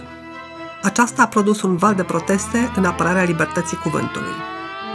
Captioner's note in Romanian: sirene